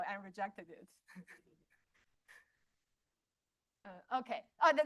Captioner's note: laughter